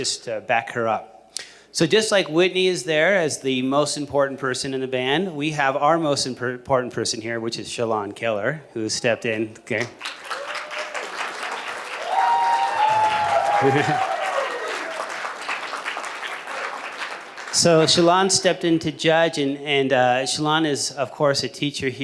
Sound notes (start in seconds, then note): 10.0 cheers and applause